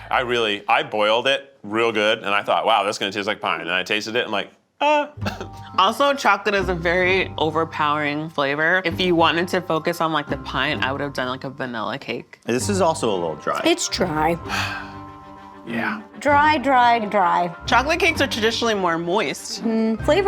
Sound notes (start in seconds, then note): 14.4 sighs